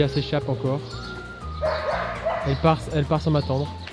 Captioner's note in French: aboiement de chiens